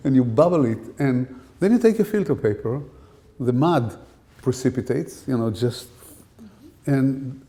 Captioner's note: fff sound